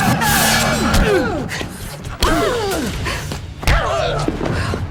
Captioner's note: elbow thuds